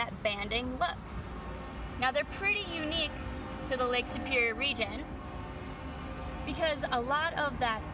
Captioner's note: train whistle in the background